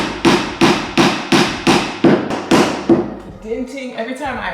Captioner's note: hammer banging